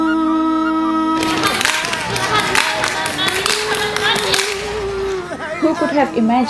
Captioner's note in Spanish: Niños aplaudiendo y cantando